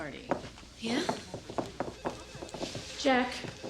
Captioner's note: phone ringing